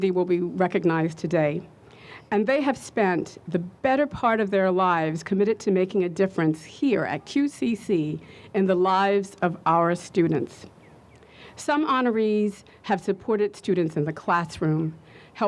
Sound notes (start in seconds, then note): none